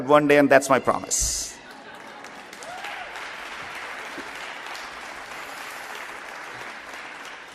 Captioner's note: applause